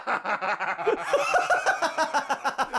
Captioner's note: laughter